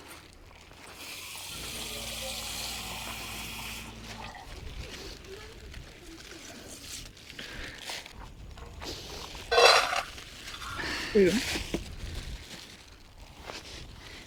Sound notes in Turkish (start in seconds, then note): 8.1 homurdanır